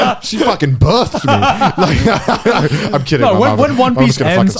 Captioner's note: laughs